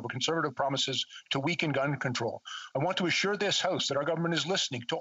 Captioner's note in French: voix de l'interprète